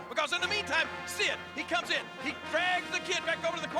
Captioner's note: none